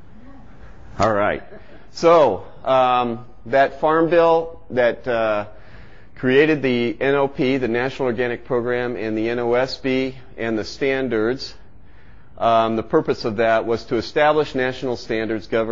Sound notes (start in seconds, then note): 1.2 participant chuckles